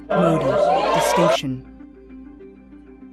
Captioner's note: cheering